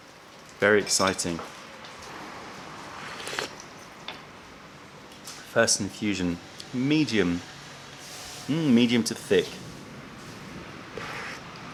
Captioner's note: sips tea